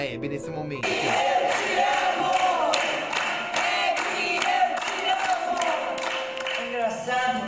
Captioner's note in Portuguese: palmas